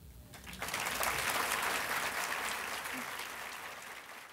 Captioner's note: audience applause